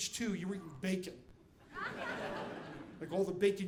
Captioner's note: audience laughing